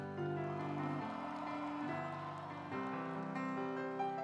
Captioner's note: audience applauds